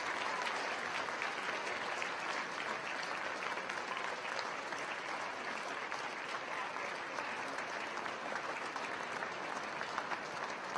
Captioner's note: cheers; continued applause